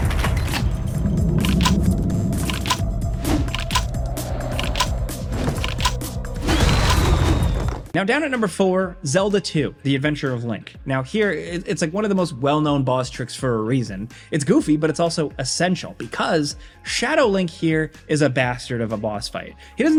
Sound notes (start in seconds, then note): 0.2 gun clacking; 3.3 wings beating; 6.6 demon shrieking